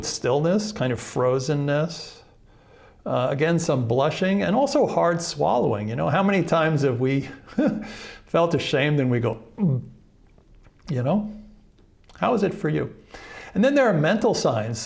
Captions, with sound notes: stillness, kind of frozenness. Again, some blushing and also hard swallowing. You know, how many times have we felt ashamed and we go [swallows] you know? How is it for you? And then there are mental signs.